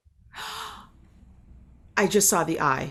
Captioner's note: gasps